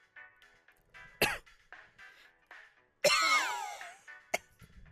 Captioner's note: exasperated bone dry coughs